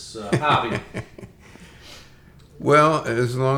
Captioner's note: laughs